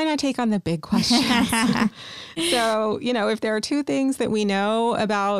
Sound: laughter

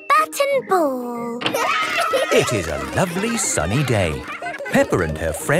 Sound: cheering

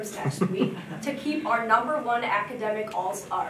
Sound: audience chuckling

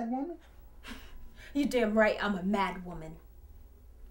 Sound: scoffs

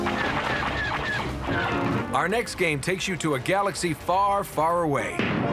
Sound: rewinding; lasers blast

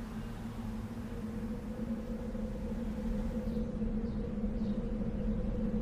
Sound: eerie atmospheric noise

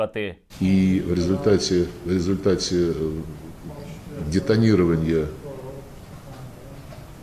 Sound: audible conversation in background

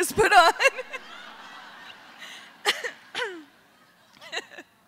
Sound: laughter

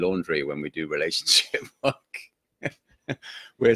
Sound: laughing

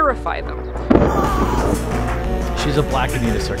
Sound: man screaming

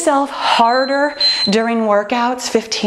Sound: timer beeping

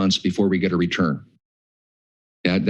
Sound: pause

